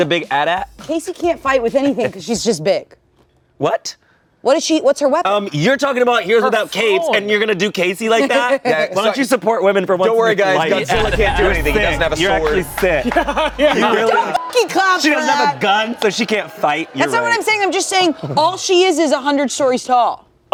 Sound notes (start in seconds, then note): 14.8 beep